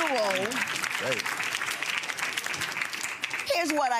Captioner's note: audience applauds